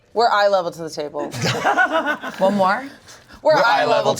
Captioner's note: everyone laughing